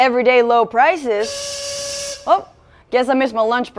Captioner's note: whistle sounds